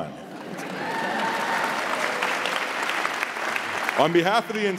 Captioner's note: audience cheering and applauding